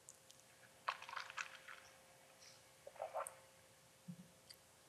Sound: guggles coffee

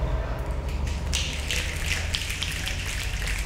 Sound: snapping

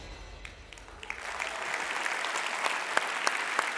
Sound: applause

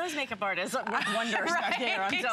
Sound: laughter

